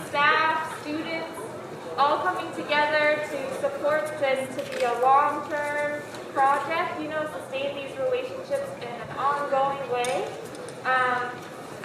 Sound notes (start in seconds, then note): none